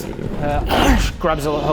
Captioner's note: chomp!